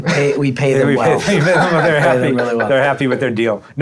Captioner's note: all laughing